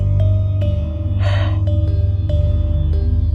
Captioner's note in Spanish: suspiro